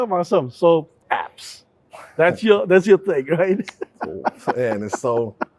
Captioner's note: laughing